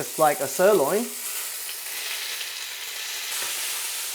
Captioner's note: sizzling sound